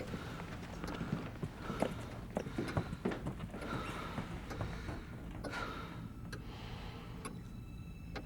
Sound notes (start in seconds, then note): 2.8 Vong breathing heavily